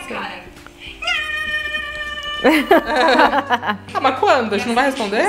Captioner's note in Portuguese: risos